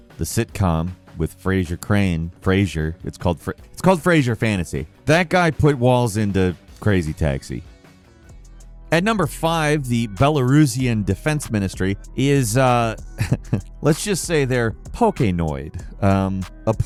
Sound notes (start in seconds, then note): 9.4 upbeat music; 13.1 chuckling